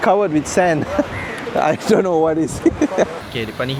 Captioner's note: laugh